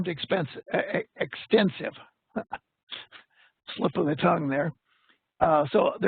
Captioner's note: laughs